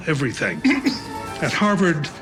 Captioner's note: chuckles